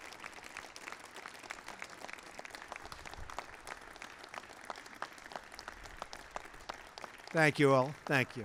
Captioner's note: applause